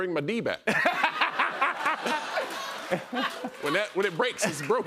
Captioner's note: laughter